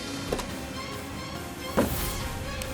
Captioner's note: door opening and closing